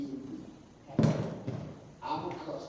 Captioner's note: thud